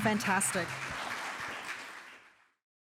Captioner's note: applause